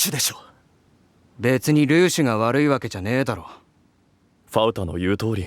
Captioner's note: in a serious tone